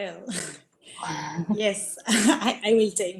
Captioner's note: laughs